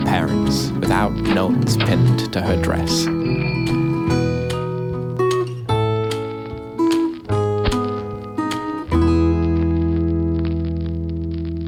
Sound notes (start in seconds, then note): 8.3 record scratching